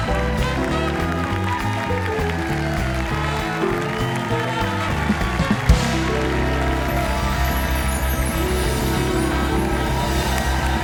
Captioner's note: applause